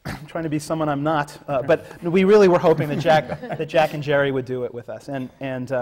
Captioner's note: laughter from the panel